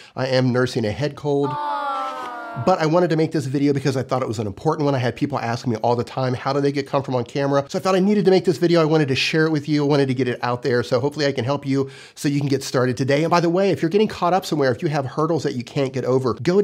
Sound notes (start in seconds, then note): 1.4 sighing